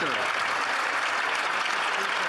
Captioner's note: some Applause